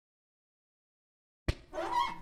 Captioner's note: squeaky whiteboard